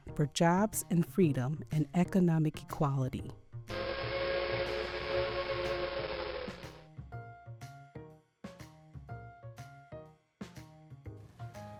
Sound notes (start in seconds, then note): 5.7 train horn blowing; 9.0 playful music